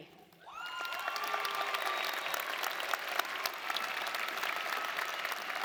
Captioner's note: audience cheering and applauding